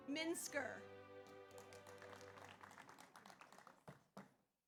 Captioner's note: audience applauds